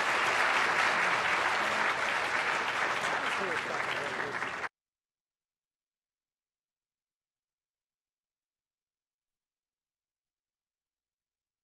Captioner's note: applause